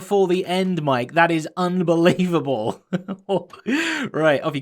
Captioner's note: chuckles